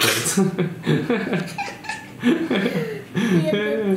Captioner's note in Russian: смех